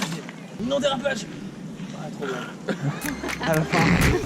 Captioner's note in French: Bruit de bouche : Crrrrrr